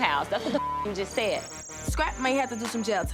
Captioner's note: beep